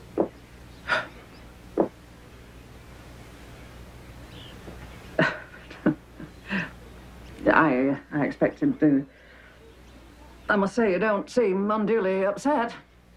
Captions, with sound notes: (Tremball chuckles) - I expected the... I must say, you don't seem unduly upset.